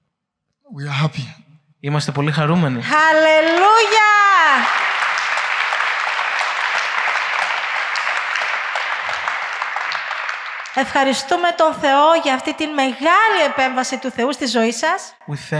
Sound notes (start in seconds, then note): 2.9 applause